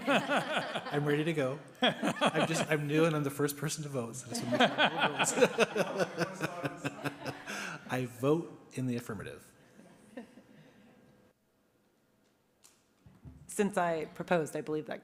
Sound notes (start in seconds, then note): 4.3 laughter